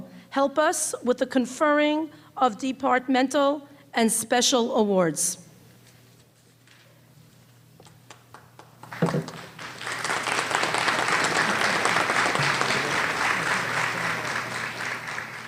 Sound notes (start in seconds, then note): 7.9 applause